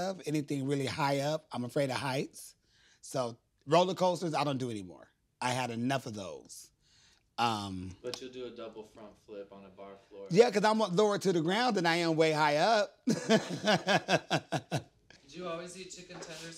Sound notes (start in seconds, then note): 13.0 laughs